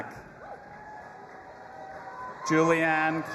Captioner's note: audience applauding and cheering